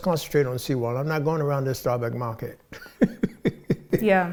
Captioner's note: laughing